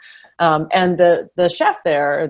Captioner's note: none